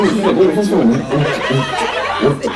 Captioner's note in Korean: 웃음